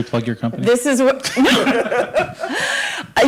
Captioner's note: laughter